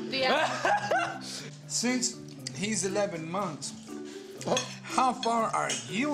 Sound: laughs

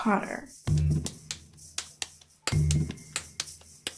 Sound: slapping

